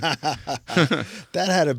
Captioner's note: laughing